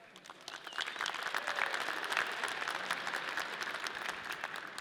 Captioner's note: audience clapping